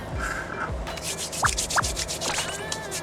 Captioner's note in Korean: 쓱싹 쓱싹